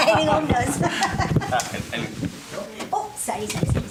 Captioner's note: audience laughs